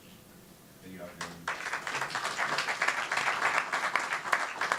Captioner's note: clapping